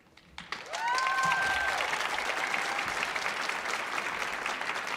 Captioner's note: audience applauding